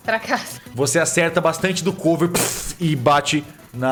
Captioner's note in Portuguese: puff